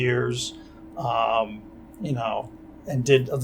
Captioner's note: none